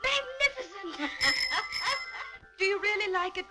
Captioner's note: ringing